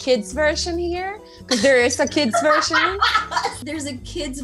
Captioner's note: laughs